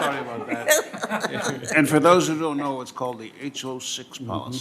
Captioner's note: laughter